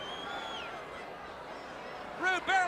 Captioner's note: crowd chatter